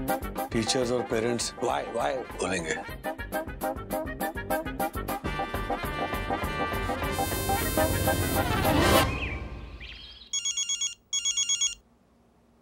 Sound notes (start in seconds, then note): 10.3 phone ringing